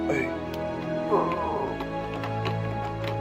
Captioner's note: death cry